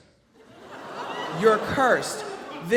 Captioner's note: audience laughs